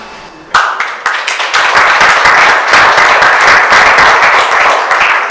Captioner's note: audience applauding